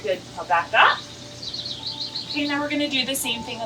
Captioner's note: bird chirps